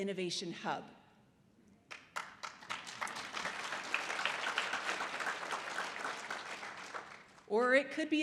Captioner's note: audience applause